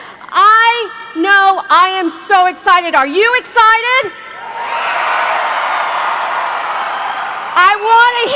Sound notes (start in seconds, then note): 4.4 cheers